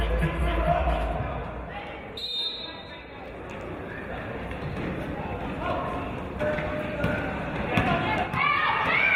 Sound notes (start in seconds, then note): 2.1 referee's whistle